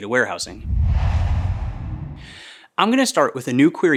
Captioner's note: logo swooshes